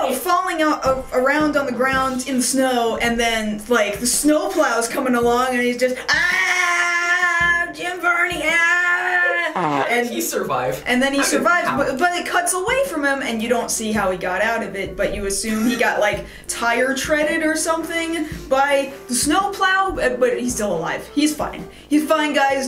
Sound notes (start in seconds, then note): 5.9 screaming; 7.9 more imitated screaming, ending with a fart noise